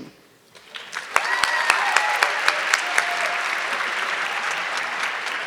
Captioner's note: audience clapping